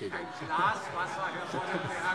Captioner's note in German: Heiterkeit